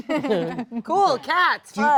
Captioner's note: all laugh